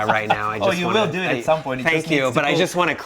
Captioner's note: laughing